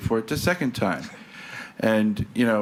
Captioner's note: people laugh